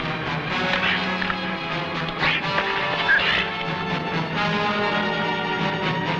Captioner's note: weapons whacking; men grunting; suspenseful music